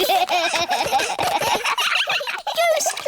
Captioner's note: all giggling